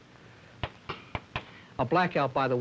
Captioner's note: chalk tapping